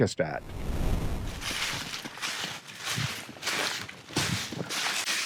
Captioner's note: leaves crunching